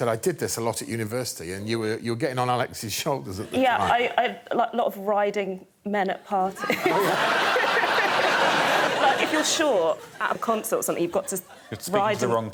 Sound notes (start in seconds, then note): 8.1 laughter